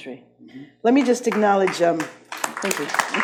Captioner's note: audience claps